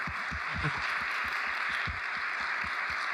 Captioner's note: applause